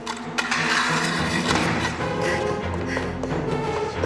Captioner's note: crash